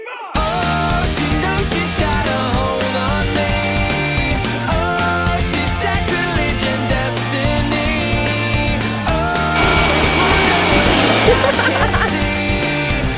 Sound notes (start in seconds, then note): 11.0 laughter